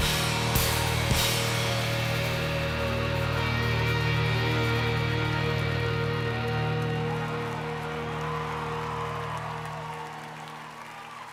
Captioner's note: applause